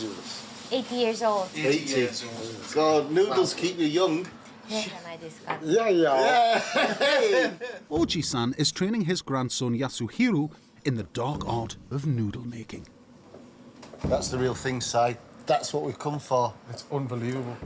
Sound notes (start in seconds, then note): 0.2 speaks Japanese; 5.7 woman interprets in Japanese; 6.3 laughter